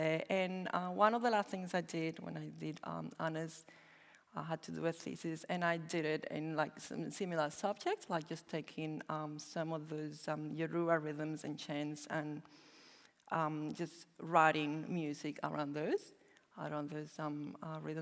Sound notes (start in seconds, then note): none